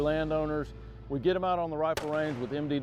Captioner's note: gun fires